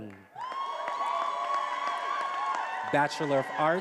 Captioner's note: attendees applauding and cheering